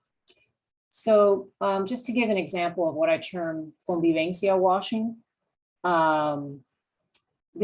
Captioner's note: spanish